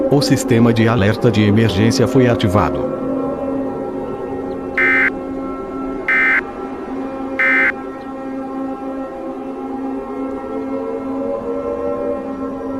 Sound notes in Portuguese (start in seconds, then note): 2.9 Sirenes continuam soando; 4.8 Tons de Fim da Mensagem; 7.4 Sirenes continuam soando